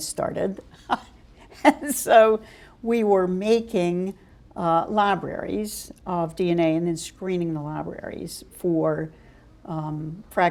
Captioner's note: chuckle